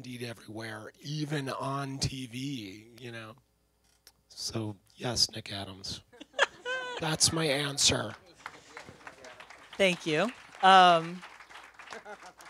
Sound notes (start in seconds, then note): 6.1 laughter; 7.0 applause